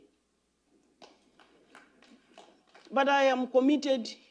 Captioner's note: applause